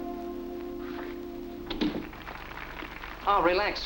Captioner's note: background applause